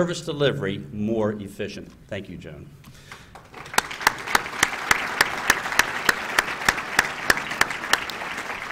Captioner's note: applause